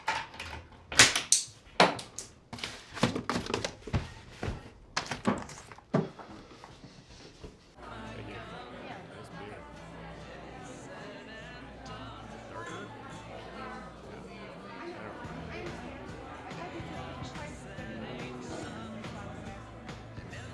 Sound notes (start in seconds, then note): 7.8 upbeat country music; 8.0 people chattering